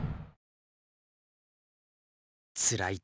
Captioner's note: silence